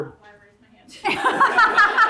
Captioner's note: faintly speaking; laughing